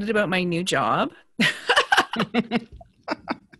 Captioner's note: laughs